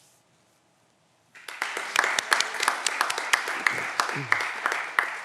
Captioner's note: audience applause